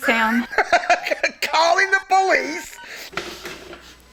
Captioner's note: laughing